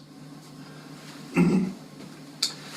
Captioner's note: cough